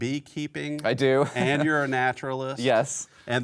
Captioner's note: laughs